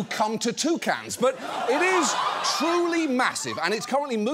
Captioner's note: audience laughing